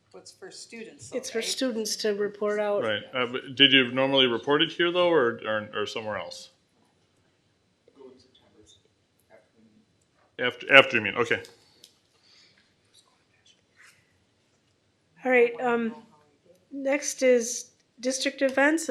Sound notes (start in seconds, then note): 7.1 low talking